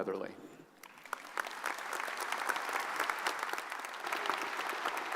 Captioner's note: audience applauds